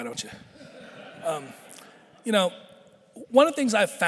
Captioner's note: audience laughing